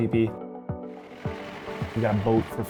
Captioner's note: boat motor rumbling